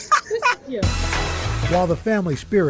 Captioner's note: laughter